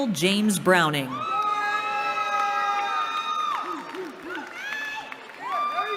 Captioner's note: cheering